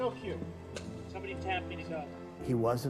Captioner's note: caroll speaking